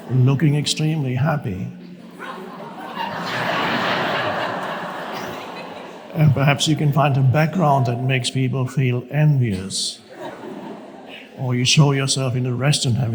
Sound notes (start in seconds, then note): 2.6 audience laughs